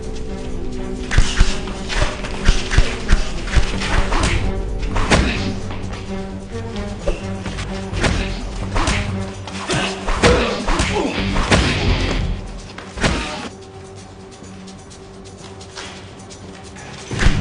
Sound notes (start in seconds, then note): 0.0 thudding blows; 0.3 melodic suspenseful music; 5.2 grunting; 9.4 thudding blows